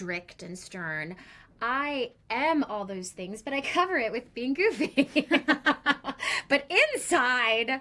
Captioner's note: both laugh